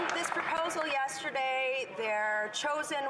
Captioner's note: some Applause